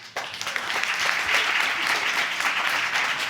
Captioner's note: applause